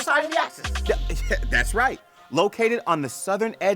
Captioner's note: laughs